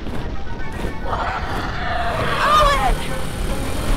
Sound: adventurous music; dinosaur squawks

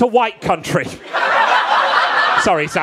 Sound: audience laughing

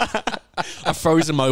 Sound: laughing

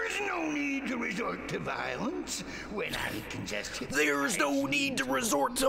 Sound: laughs

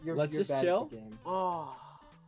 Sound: sighs

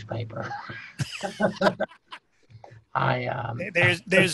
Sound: laughing

